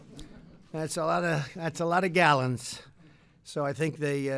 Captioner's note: laughter